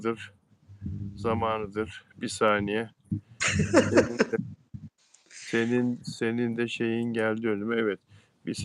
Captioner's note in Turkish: kahkaha